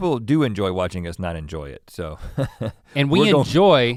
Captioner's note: chuckles